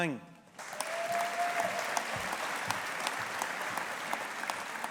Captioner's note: audience applauding